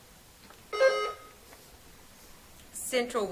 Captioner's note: buzzer trills